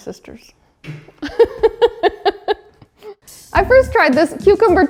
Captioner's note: laughs